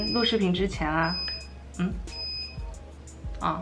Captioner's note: beeping